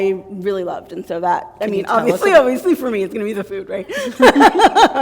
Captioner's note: laughter